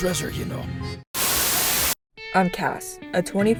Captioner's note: Static